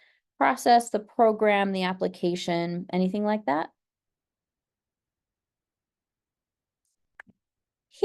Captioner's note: pause